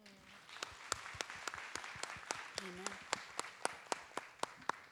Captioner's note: audience and performers applaud